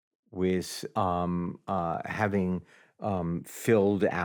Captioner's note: none